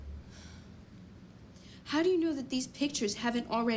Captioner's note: sighs